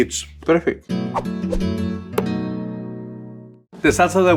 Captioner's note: graphics whooshing; gentle guitar music